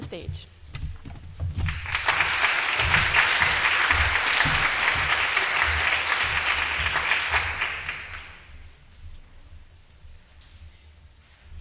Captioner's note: applause